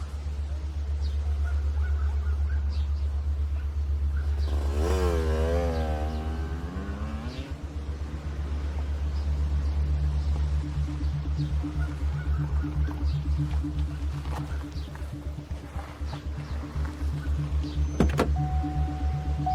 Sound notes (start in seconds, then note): 3.0 birds chirping